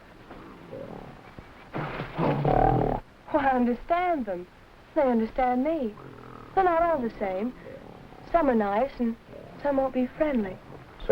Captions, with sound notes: (gorilla grunting) - Well, I understand them. They understand me. They're not all the same. Some are nice, and some won't be friendly.